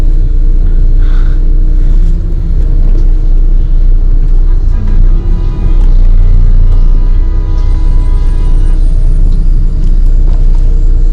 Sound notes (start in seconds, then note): 4.3 horns Honking